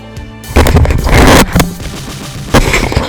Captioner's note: static